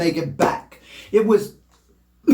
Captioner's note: coughs